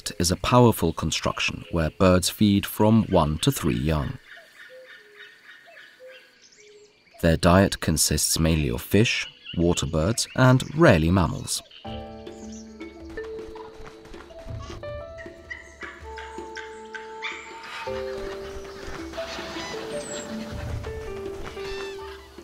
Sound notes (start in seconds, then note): 4.2 sounds of nature; 11.6 music, sounds of nature